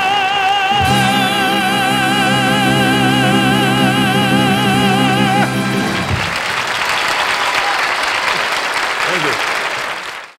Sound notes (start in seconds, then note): 5.4 audience applauding